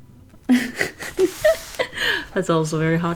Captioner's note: laughs